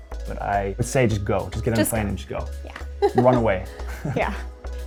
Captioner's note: laughs